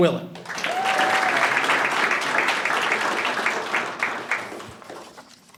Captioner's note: audience applauding and cheering